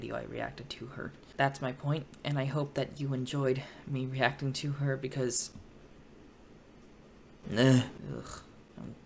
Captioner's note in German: grunzt